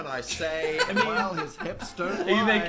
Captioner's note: Phil laughs